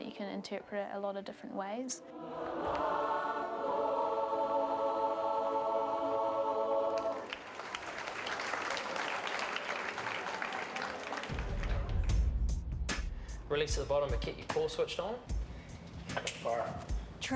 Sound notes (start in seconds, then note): 6.9 clapping